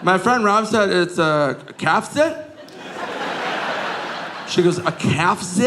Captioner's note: audience laughing